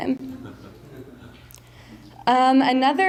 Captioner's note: mild laughter